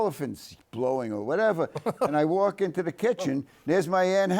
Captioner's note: Tony laughs